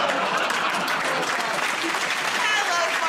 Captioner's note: laughter; applause